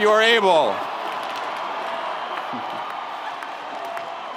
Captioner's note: graduates cheering